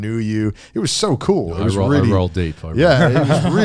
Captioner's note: speaking in foreign language